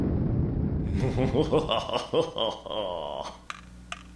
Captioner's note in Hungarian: Evil laugh